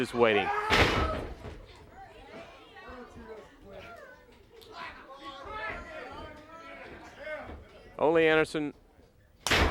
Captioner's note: crowd chatter